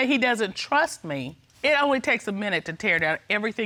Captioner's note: none